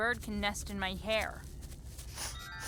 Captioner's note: sniffs